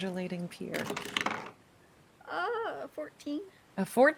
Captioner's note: dice thudding